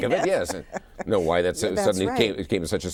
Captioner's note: all laughs